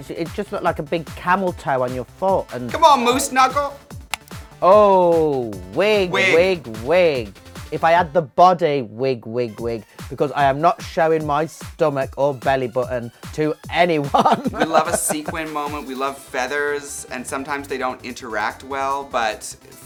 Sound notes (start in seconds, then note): 14.1 chuckles